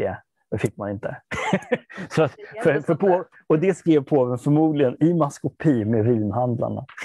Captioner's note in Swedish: Skrattar